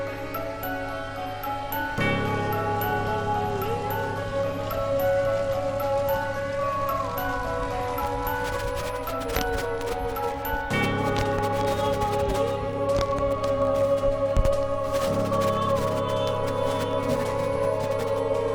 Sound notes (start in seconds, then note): 1.9 thrilling music; 5.4 fire crackling; 9.2 static crackling; 10.9 thrilling music